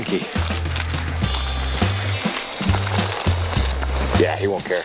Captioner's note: upbeat music; objects rustling